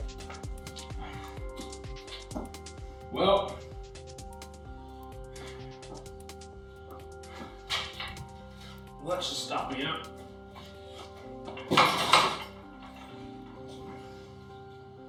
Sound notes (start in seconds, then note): 10.9 clanking